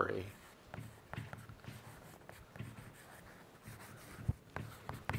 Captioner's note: chalk scraping